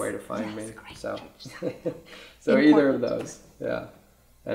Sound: whispering

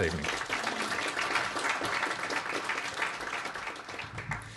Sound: audience applauds

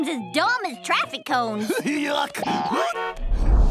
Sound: horn honking

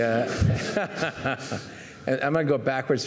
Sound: laughing

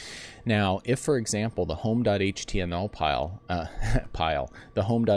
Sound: laugh

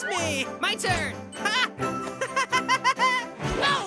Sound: laughs

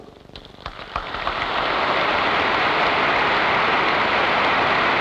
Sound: applause

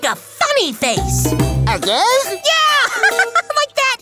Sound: laughs

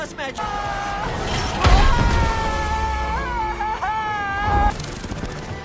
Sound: sonic yells

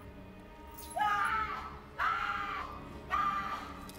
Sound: girl screams

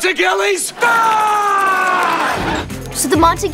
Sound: yell

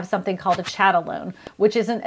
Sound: whooshing

